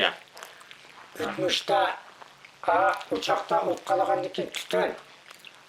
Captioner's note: speaks in foreign language